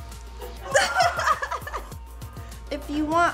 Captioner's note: laughing